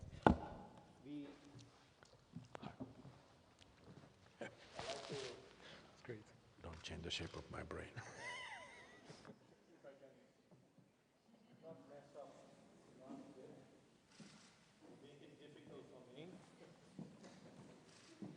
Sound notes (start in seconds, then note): 13.0 laughs